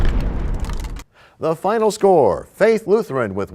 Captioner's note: crashing sound